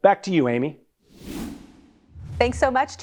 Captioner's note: air whooshes